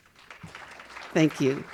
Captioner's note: audience applauding